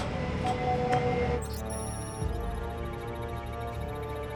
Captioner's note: instruments beeping